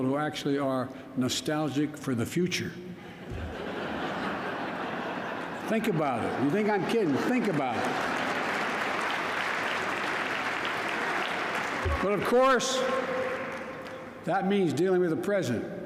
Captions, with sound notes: who actually are nostalgic for the future. (Laughter.) Think about it. You think I'm kidding. Think about it. (Applause.) But, of course, that means dealing with the present.